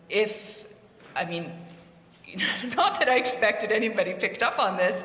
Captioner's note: laugh